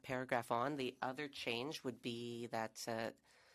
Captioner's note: speaking French